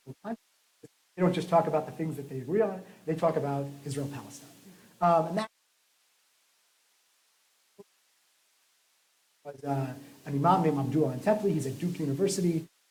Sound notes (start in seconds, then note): 5.6 silence